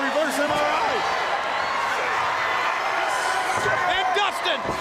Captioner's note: crowd cheering